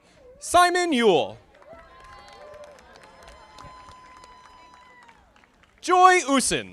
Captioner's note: audience applauding